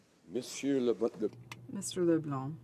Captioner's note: speaking French